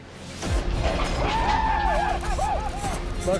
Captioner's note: cowboys shouting